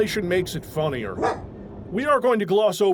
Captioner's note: woof!